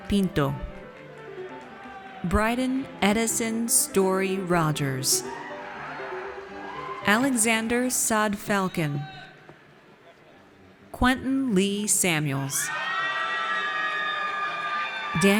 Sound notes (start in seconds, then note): 5.2 audience cheers; 12.6 audience cheers